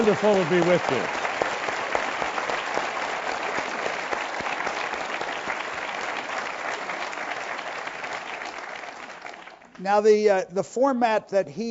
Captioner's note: applause